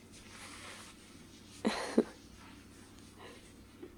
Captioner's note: laughs